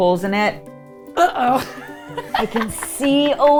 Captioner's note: laughing